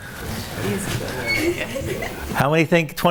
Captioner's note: audience murmurs